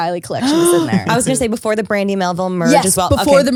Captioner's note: gasps